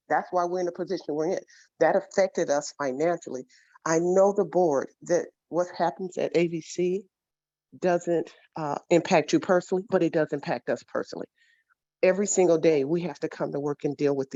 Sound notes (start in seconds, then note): none